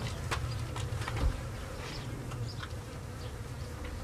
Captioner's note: flies buzzing